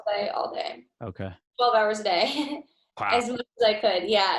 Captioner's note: chuckles